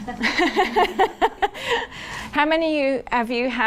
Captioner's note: laughs